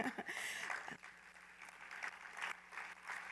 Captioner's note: laughs; applause